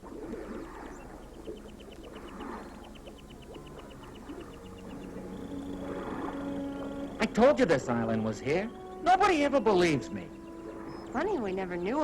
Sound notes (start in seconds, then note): 3.8 waves lapping